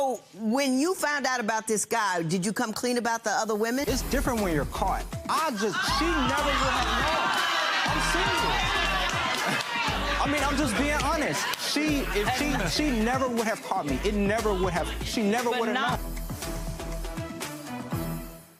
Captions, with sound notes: - So, when you found out about this guy. Did you come clean about the other women? - It's different when you're caught. She never would have known. (audience chatter) I'm serious. (audience chatter) I'm just being honest. She never would have caught me. It never would have, she never would have known. (dramatic music)